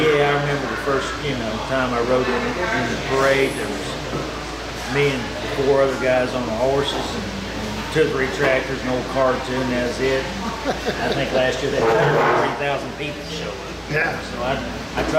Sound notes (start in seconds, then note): 10.3 laughing